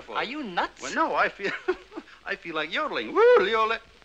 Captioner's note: laughing; yodeling